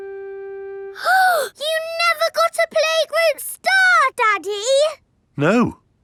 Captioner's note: gasps